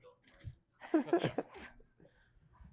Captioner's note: laughter